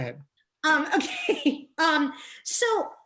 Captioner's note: laughs